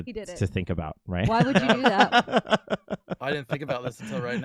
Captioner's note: laughs